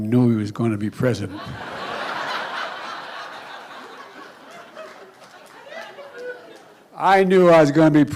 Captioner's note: laughter